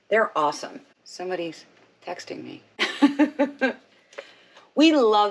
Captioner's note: laughs